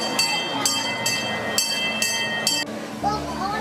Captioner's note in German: Zug Glocken